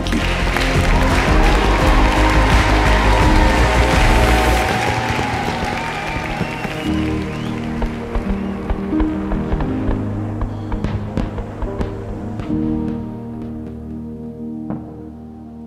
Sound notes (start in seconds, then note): 0.3 applause; 3.6 fireworks